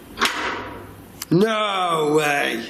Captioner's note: lock clicks